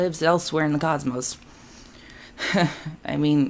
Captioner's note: chuckles